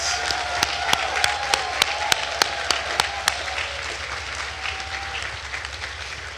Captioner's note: attendees cheering and applauding